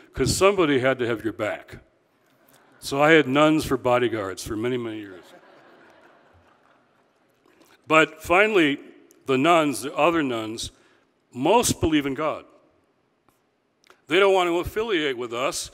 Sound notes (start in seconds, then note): 5.1 audience laughing